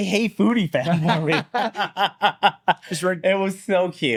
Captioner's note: both laughing